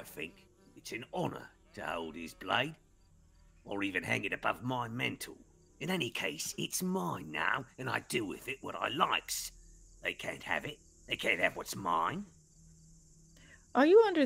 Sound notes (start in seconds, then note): none